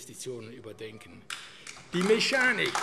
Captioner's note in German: Beifall AfD